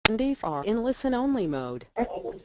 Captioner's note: automated voice